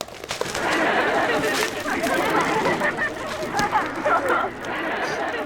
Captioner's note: audience laughing